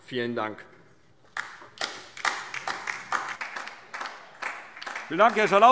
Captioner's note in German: Beifall